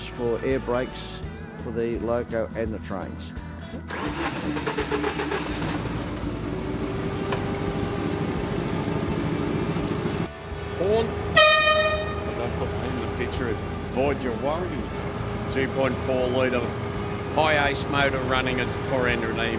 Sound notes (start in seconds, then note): 3.9 train engine revving; 11.3 train horn honking